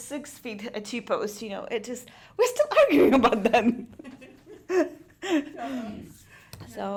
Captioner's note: laughing